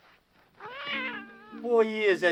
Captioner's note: cat meowing